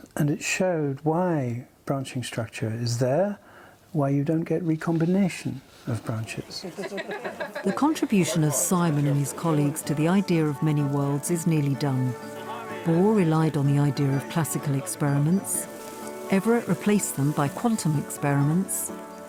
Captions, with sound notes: and it showed why branching structure is there, why you don't get recombination of branches. (woman laughing) The contribution of Simon and his colleagues to the idea of many-worlds is nearly done. Bohr relied on the idea of classical experiments, Everett replaced them by quantum experiments,